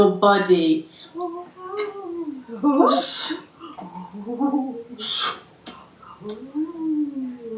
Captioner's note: waivering high voice, 'Shh' interjecting over the top